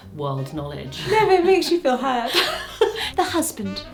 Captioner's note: pair laughs